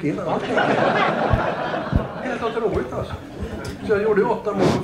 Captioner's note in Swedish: Skratt